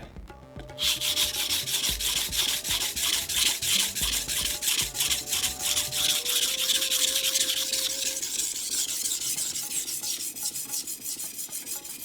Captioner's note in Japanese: 刃先を研ぐ音